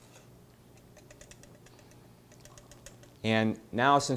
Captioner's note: whisk tapping pan